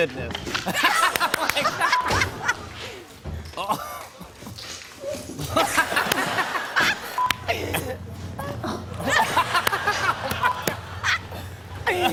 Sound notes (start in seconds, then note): 0.5 laughter; 1.9 beep; 5.4 laughter; 7.1 beep; 8.4 laughter